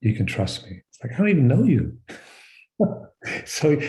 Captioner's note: laughs